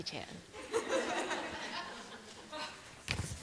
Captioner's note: laughter